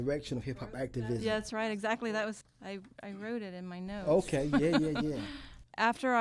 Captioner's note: laughs